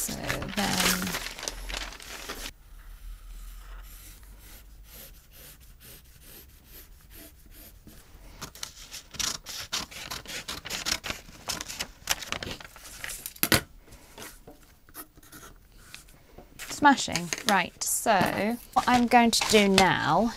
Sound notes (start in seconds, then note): 2.9 rustling and pencil noises; 8.6 pencil scratching; 10.1 scissors snipping